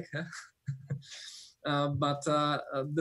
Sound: laughs

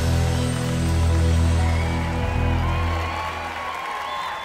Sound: cheers and applause

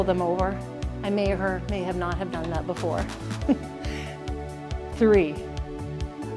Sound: giggles

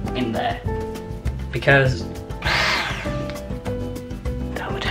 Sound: turns on the hand blender

